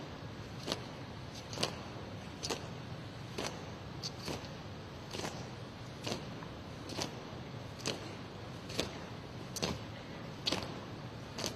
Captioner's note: foot steps